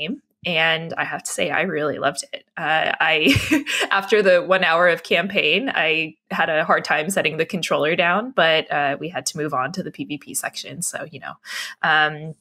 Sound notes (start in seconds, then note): 3.2 laughs